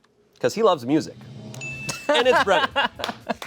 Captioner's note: bell chimes; crew applauds